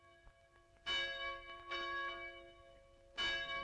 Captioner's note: bells ringing